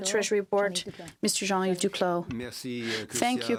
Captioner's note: speaking french